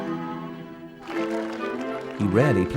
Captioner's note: crowds applauding